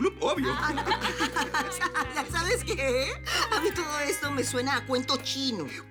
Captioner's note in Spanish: Risas